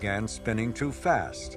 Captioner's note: wheels buzzing